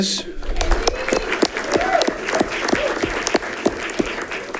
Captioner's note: audience clapping